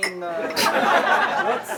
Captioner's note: laughter